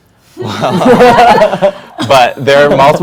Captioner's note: panel laughs